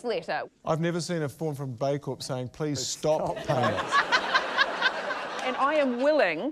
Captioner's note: laughter